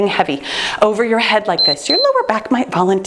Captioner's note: timer beeping